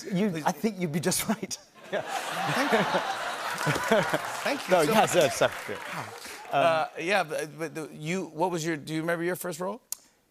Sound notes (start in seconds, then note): 1.8 laughter